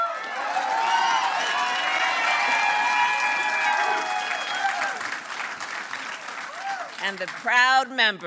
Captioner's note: applause